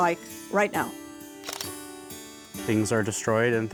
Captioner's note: camera shutter clicks